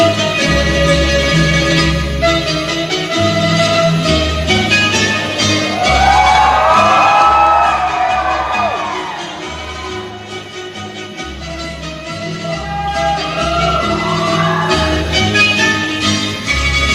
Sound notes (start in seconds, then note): 5.6 audience cheers